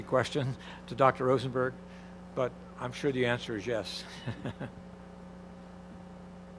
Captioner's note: chuckles